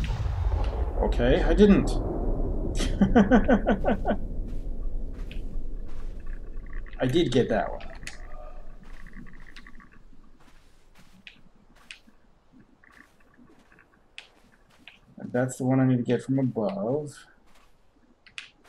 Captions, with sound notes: Okay, I didn't! [chuckles] I did get that one. Like, that's the one I need to get from above...